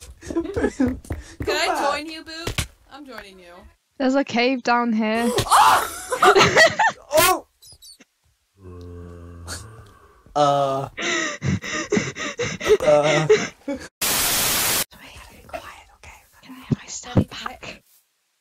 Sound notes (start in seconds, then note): 5.2 screams; 5.8 laughs; 12.0 starts Hyperventilating